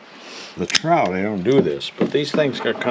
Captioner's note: snapping